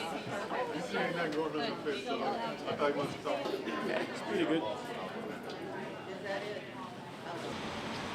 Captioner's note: voices of crowd